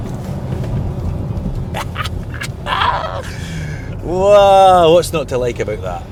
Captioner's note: laughs